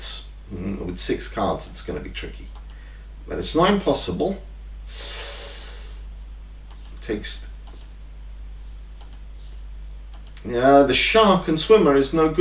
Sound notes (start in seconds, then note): 4.9 draws breath